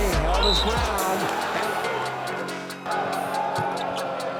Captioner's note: crowd cheering